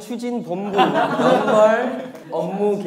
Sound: laughing

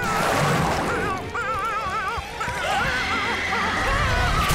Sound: meowing

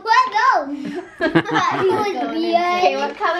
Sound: laughing

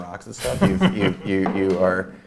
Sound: A.J. laughs

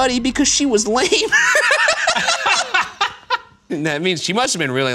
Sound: laughing

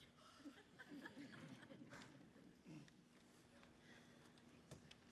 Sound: woman laughing

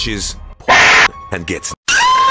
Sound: Half Life Stalker Scream

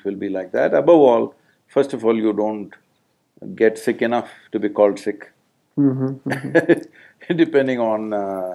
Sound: laughs

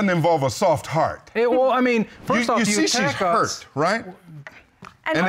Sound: stammers

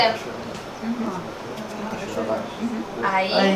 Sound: indistinct chatter

